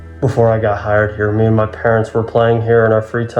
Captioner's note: none